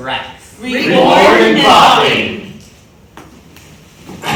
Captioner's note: in Unison